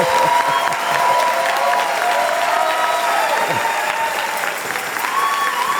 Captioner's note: applause and cheers